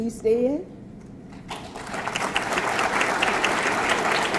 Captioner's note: audience clapping